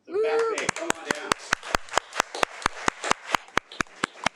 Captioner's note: audience applauding